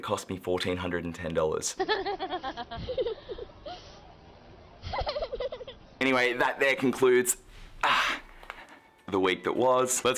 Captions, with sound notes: And it costs me 1,410 dollars. (woman and kid laugh) (kid cries) - Anyway that there concludes the week that was.